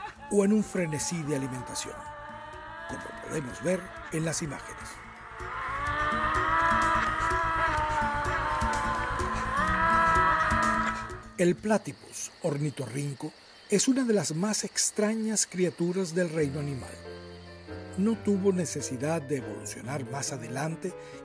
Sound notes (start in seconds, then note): 3.8 Devil's screeching sounds